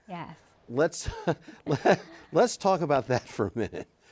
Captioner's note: chuckles